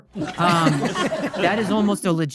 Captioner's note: audience laughing